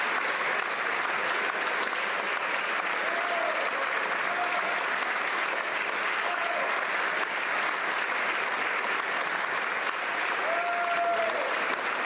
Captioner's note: applause